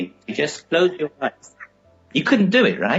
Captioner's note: audio cutting out